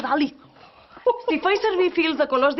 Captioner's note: they laugh curious